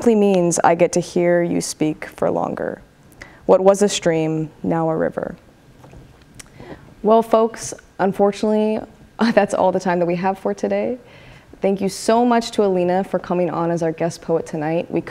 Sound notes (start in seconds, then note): none